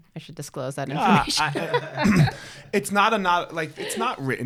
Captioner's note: laughs